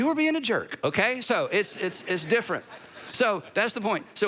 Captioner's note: audience laughing